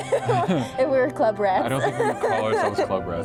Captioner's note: laughing